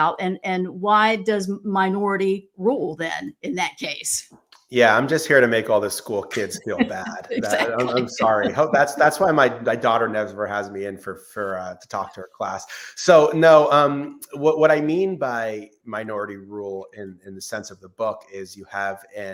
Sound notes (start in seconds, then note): 6.1 laughs